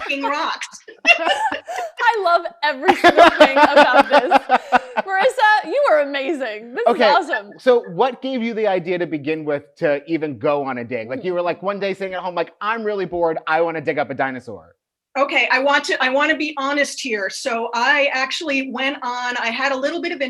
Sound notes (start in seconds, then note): 0.0 laughing; 3.8 laughing